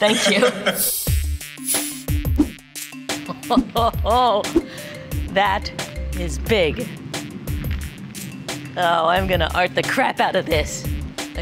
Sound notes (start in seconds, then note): 1.1 upbeat music; 3.2 chuckling; 7.0 upbeat music